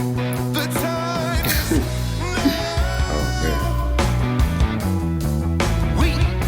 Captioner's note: laughs